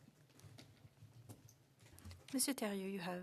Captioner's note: speaking French